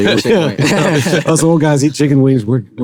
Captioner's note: everyone laughs